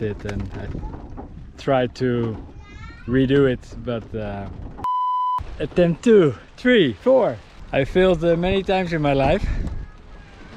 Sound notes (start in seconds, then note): 4.8 tone beeping